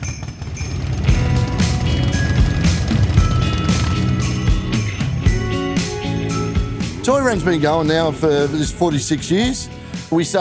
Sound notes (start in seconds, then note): 0.0 engines continue to rev; 0.1 upbeat music